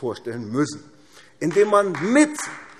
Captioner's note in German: Beifall AfD